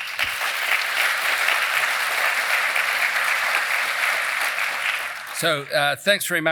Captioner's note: applause